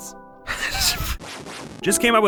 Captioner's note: anxious wheezing